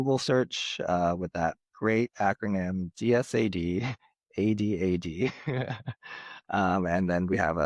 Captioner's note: laughs